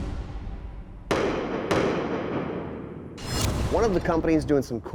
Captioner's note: gun shooting